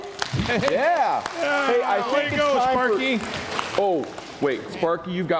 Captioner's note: applause